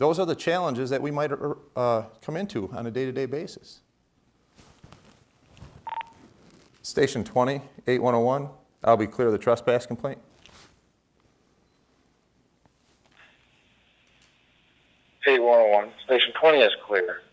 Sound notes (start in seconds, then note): 5.8 beep